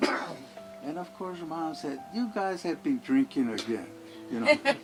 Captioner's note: laughter